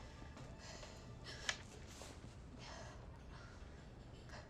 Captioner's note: breathing heavily